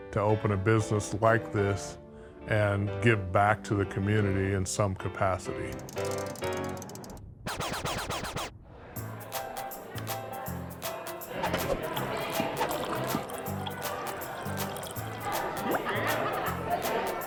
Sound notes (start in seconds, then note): 7.4 vinyl scratching; 9.0 upbeat music; 11.4 beer splashing